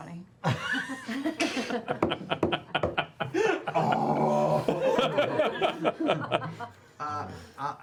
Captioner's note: laughter